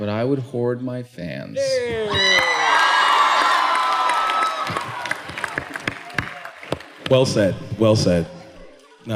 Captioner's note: cheering, clapping